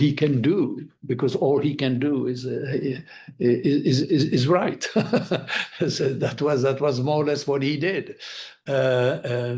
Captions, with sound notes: because all he can do is write. (laughing) So that was more or less what he did.